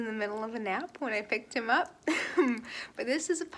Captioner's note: laughs